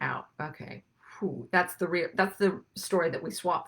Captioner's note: exhales